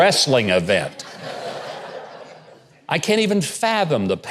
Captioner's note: audience laughing